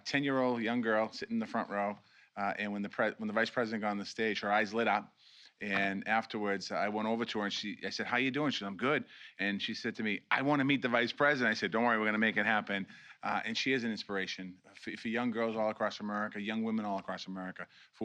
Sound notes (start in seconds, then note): none